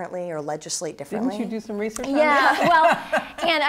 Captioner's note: chuckles